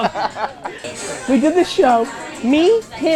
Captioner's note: laughs